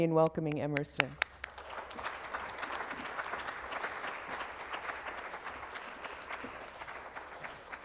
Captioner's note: applause